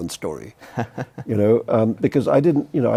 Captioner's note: laughs